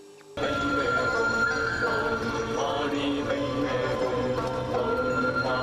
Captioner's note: chanting the mantra